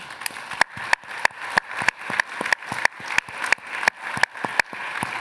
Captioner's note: applause